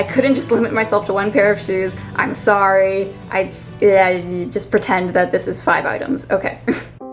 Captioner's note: chuckle